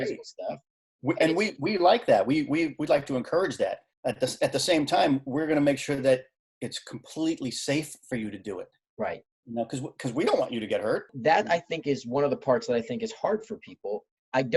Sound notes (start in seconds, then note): none